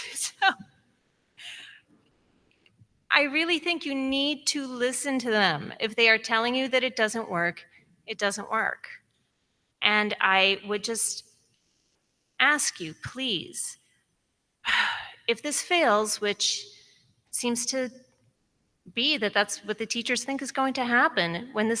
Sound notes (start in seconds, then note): none